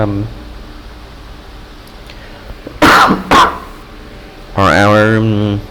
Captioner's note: cough